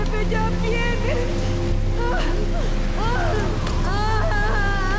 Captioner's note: groaning